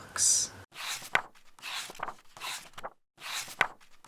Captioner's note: pages turning